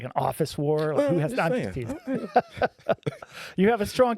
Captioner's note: laughing